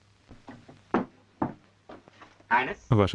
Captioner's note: floor pattering